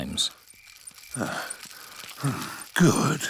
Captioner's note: panting